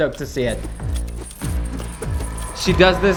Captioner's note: chains clink